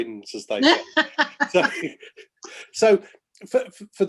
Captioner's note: laughing